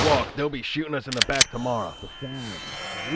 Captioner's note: Sawyer's ears ring